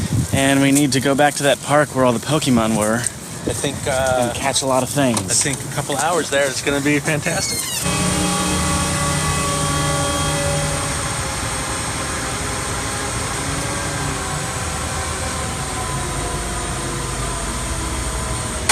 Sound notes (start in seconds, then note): 7.2 trunk squeeks open; 7.2 low whirring of construction machine